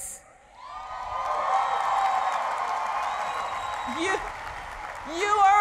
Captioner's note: cheering and applause